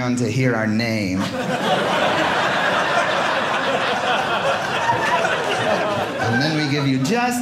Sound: audience laughing

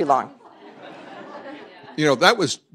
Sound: laughter

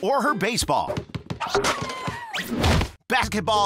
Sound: dribbling

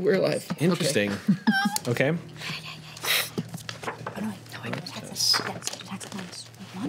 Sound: overlapping whispering

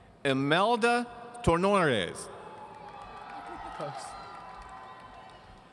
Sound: audience cheering

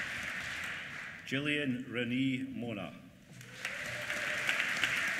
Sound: applause

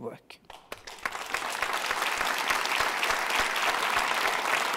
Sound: audience applauding

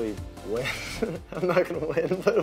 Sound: laughs

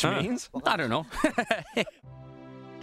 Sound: laughs

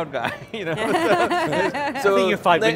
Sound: laugh

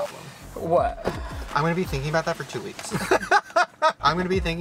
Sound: laughs

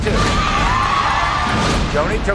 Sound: audience screaming

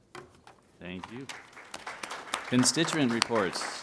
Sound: applause

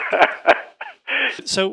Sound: laughs

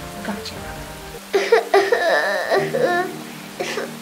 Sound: Jęki

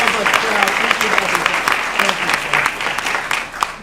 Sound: applause

